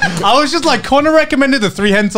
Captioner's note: laughs